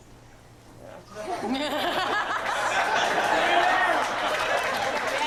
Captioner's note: laughter